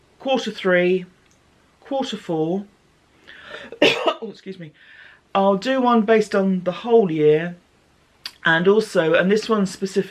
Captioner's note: cough